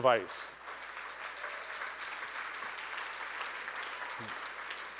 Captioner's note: audience applauding